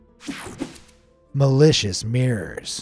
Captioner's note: screen whooshing